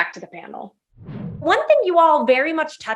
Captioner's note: graphics whooshing